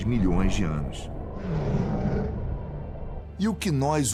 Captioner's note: dinosaur roar